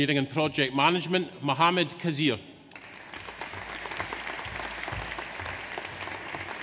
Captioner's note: audience applauds